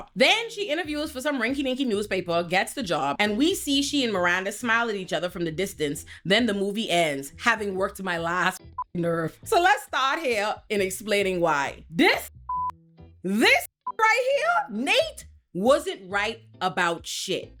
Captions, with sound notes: Then she interviews for some rinky ninky newspaper, gets the job and we see she and Miranda smile at each other from the distance. Then the movie ends having worked in my last nerve. So let's start here in explaining why. This (beep) this (beep) right here, Nate wasn't right about shit.